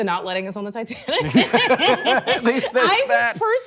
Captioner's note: both laughing